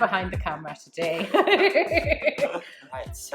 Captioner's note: laughing